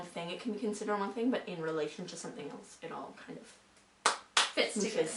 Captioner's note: claps